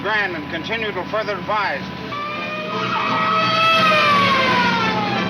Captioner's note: police siren blares; exciting music